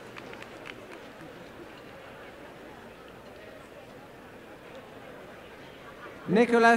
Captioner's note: cheering and applause